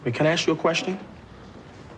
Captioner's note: none